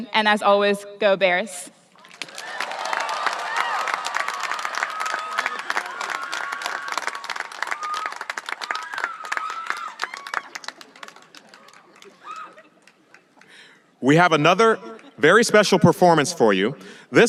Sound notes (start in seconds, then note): 1.9 audience applauding and cheering